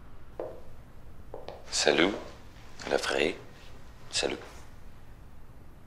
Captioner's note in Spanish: habla en francés